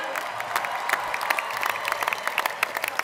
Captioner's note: applause; cheers and applause